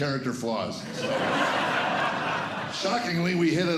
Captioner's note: laughter